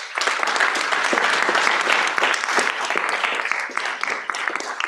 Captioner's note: applause